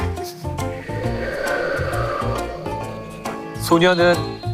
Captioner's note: A sound effect of wind